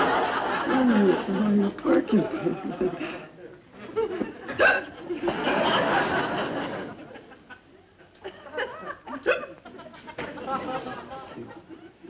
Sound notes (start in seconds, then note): 0.0 audience laughs; 4.6 hiccups; 9.2 hiccups